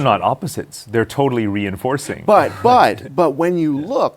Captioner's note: laughs